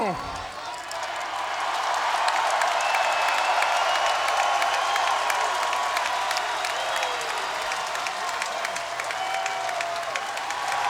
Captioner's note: applause